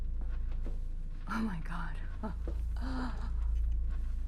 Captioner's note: gasping